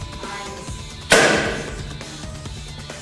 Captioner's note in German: peng!